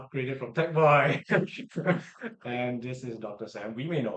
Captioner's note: laughs